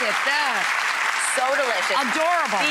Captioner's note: audience clapping